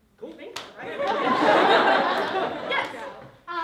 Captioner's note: laughter